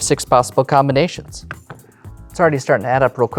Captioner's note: taps cards